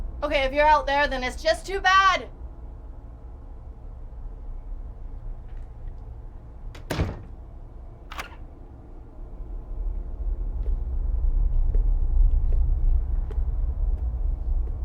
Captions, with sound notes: Okay, if you're out there then it's just too bad! (door clicks) (lock clicks) (ominous music continues)